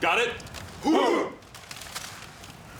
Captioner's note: all grunt in approval